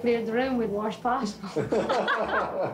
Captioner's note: laughing